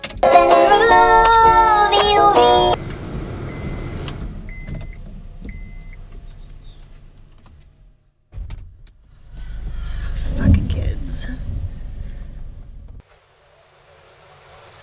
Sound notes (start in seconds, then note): 3.1 car beeps; 3.1 vents blasting air